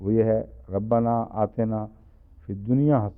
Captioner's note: Arabic